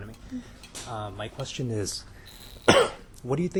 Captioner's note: coughs